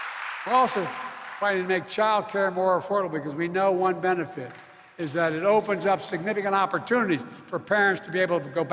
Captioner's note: applause